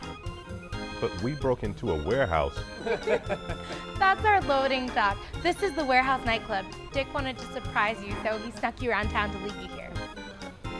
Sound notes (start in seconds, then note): 2.6 they laugh